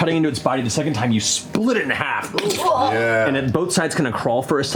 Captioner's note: squelching